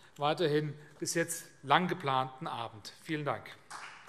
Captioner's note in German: Beifall CDU und BÜNDNIS 90/DIE GRÜNEN